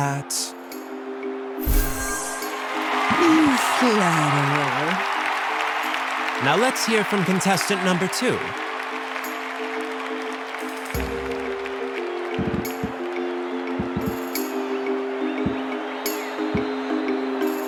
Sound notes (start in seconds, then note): 8.8 applause